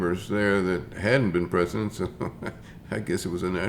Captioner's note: chuckles